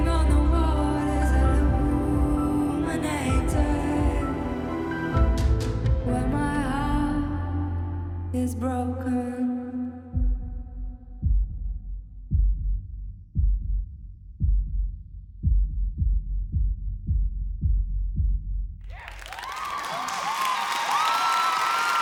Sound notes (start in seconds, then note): 9.3 heartbeat; 18.9 cheers and applause